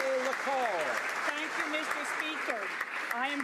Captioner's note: speaking ukrainian